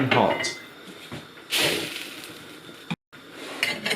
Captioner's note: the sound of flames